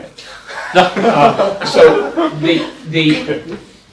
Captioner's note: laughter